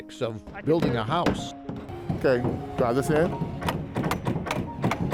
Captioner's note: hammers banging